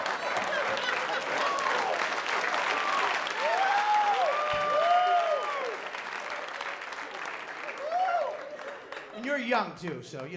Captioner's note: laughter; applause